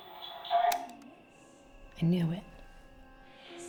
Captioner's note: recorder clicks